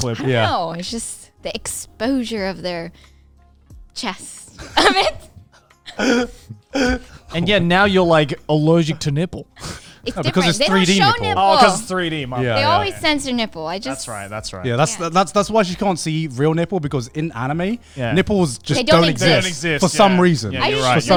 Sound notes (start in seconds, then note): 4.6 laughing